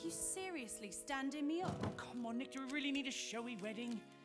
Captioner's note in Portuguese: none